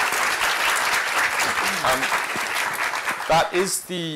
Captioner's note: applause